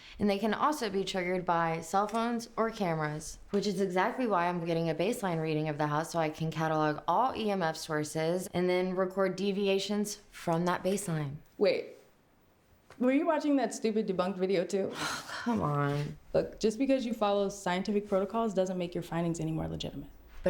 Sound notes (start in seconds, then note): 14.9 sighs